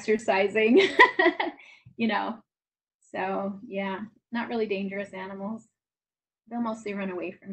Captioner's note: laughs